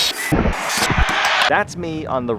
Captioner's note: saw whirs